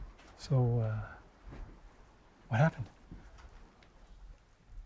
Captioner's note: none